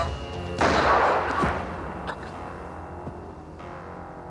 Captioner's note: gun firing